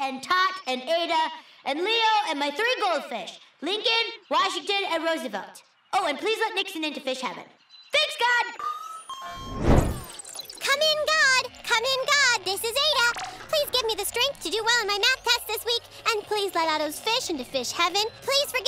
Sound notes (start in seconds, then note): 8.6 electronic beeping